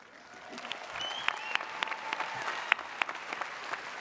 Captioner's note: audience cheers